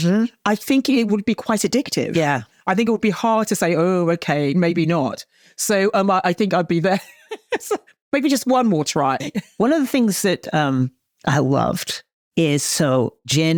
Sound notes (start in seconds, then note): 7.3 chortles